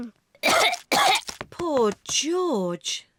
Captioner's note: coughs